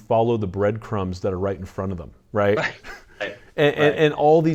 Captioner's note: chuckles